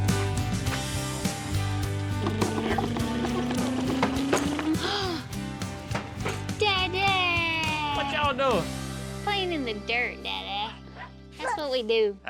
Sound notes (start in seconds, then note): 0.6 footsteps; 1.9 makes motor revving noise; 4.9 gasps